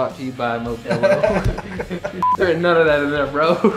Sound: laughing

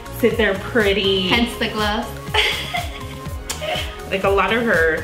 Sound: giggles

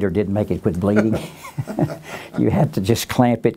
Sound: laughs

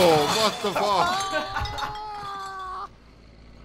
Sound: laughing, character screaming

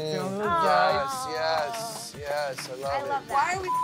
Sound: cast applauds; beep

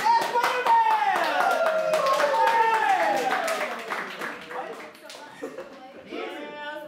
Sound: cheers

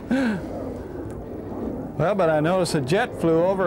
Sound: plane flying overhead

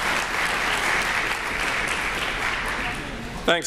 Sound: applause

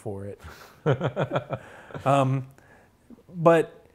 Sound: laughs

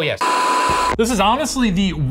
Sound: static buzzing

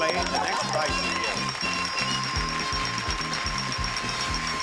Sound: audience applauding; upbeat music

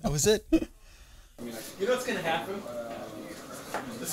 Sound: laughter; laughing/talking/background noise including Stories 'N Steel on the TV!

